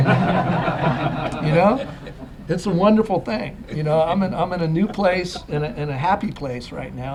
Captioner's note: laughter